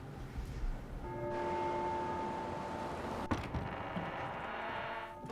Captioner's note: church bell rings